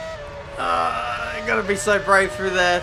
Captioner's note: grunts